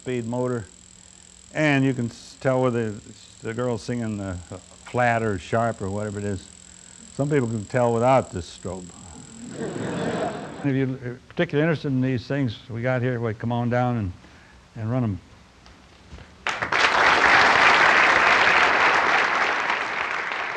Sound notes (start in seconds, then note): 9.4 laughter; 18.0 applause